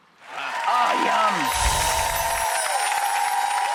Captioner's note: applause